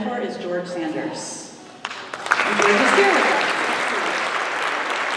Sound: applause

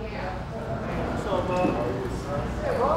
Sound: chatter

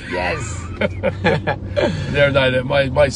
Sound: laughing

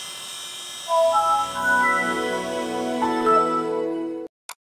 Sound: computer launching

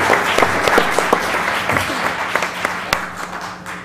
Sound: laugh

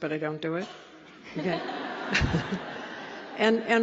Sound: laughter

